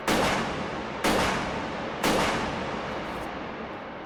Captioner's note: gun blast